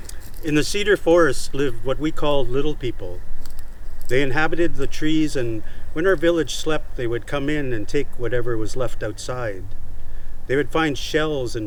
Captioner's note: bird calling